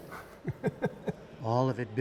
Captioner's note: laughter